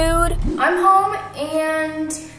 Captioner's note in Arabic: أزيز الهواء